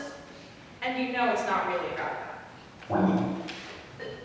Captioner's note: blip sound effect